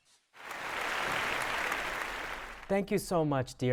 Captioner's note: audience applauding